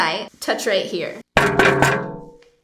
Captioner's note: taps on screen